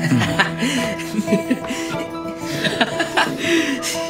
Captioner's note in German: Lachen